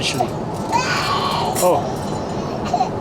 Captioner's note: baby crying